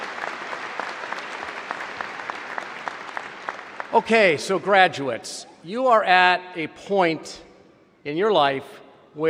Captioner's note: applause